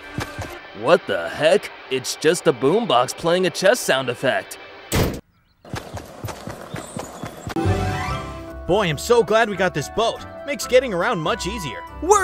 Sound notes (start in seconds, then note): 4.9 door slamming; 5.7 footsteps tapping